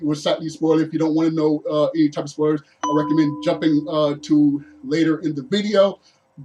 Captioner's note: alert sound